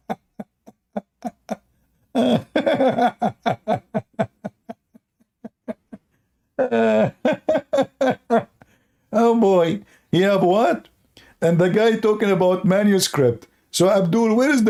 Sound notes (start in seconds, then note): 6.8 Ketawa